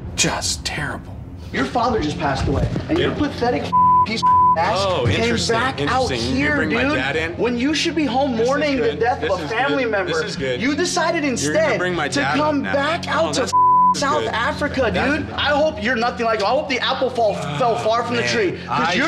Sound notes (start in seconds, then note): 3.7 beeps; 13.5 beeps